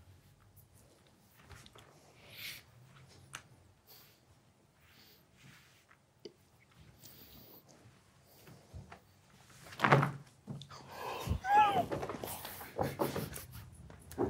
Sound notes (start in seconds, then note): 0.6 shuffling cards; 9.9 cards hitting table; 10.8 group quietly gasps